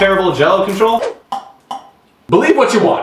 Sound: swoosh

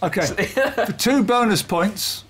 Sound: laughs

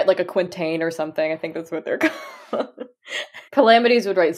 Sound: laughing

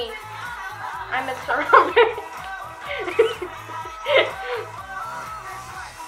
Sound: laughing

